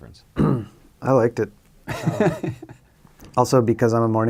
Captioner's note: laughs